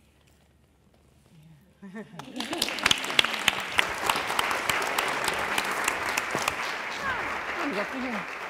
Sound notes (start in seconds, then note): 2.2 applause